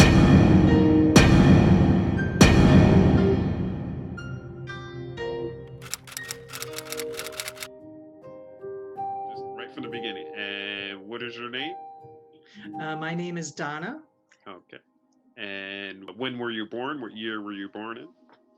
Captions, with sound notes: (typing sound) - Just right from the beginning, and what is your name? - My name is Donna. - Okay, and when were you born? What year were you born in?